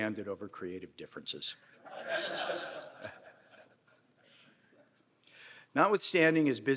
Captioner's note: laughter